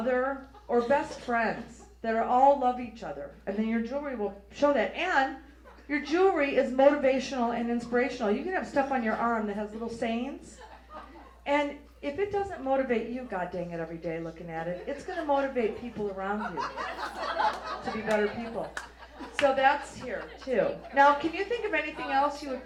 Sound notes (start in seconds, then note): 16.7 audience laughs